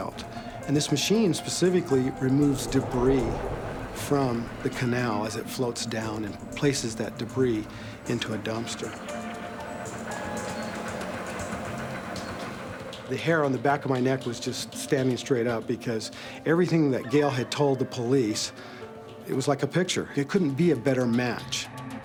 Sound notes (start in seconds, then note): 9.1 rolling machine whirring